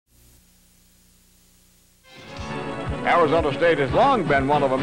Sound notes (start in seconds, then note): 0.1 white noise